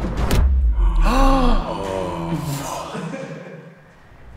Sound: suspenseful drum music; all gasping

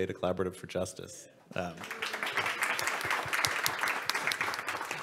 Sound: audience and panel applaud

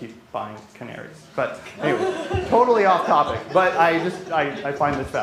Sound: laughter

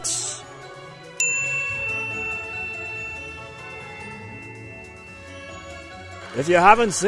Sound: ping sound effect

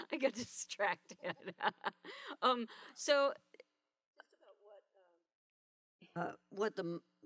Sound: laughter

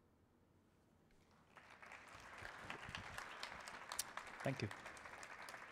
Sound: audience applauding

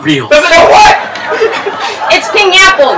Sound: audience chuckles

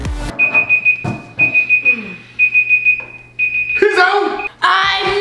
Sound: beeps sound

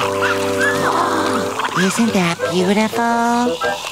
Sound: gasps

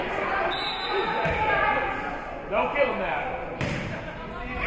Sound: whistle being blown

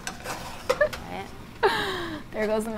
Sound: pot scraping

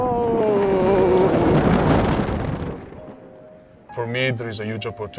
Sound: roller coaster cars whoosh

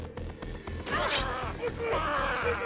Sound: squelching

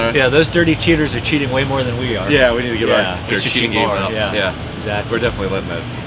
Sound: muttering in agreement

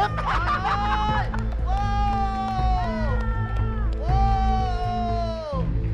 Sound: exclaiming

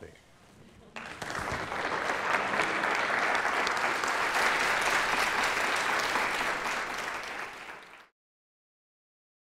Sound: applause

